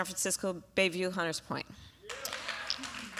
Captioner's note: applause